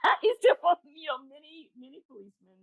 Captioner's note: laughing